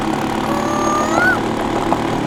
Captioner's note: mimicking cuckoo's voice